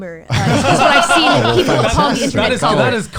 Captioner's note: laughs